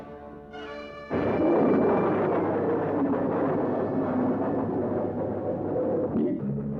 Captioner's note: plane engines roar